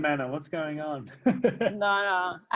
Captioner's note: laughs